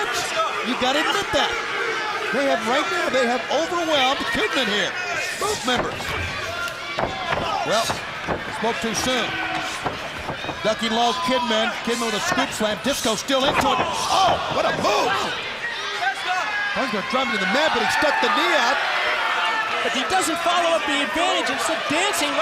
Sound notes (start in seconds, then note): 17.0 crowd chatter; 20.5 crowd cheering